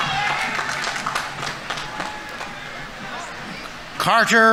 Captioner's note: audience applauding; audience members cheering